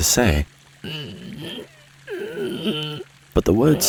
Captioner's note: Moses groans